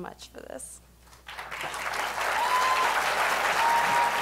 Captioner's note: applause